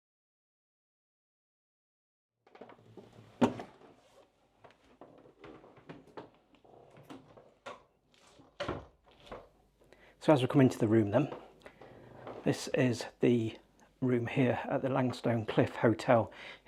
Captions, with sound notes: (door clunking) So, as we come into the room then, this is the room here at the Langstone Cliff Hotel